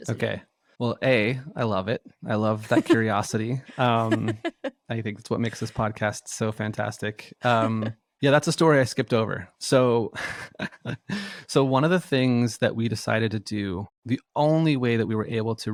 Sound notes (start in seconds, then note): 2.6 laughs; 7.3 laughs; 9.6 laughs